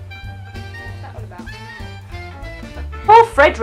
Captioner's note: laughs